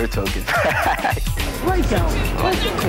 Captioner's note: laughing